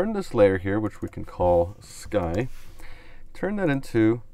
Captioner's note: clicks on mouse